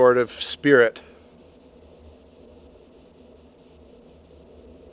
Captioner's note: static crackling